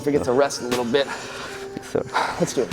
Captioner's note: laughs